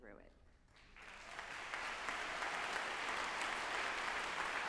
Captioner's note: group applauding